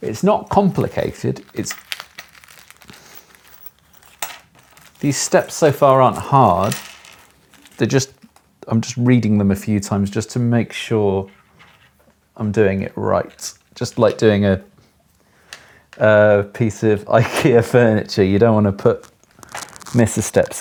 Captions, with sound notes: It's not complicated. (plastic crinkles) These steps so far, aren't hard. They're just, I'm just reading them a few times, just to make sure I'm doing it right. Just like doing a piece of Ikea furniture. You don't want to put, miss a step,